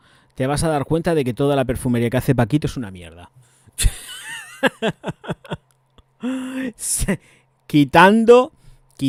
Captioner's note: laughs